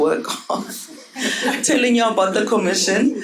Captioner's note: audience laughing